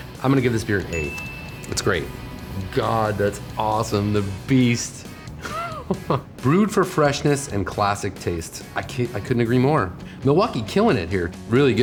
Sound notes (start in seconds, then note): 5.4 chuckles